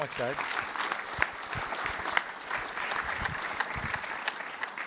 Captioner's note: applause